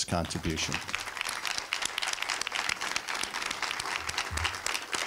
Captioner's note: applause